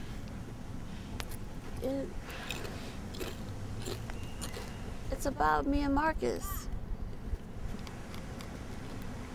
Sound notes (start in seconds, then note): 3.8 crunching